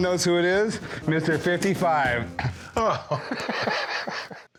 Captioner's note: laughs